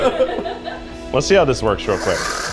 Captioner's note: crew laughs